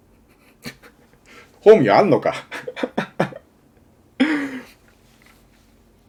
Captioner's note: laughter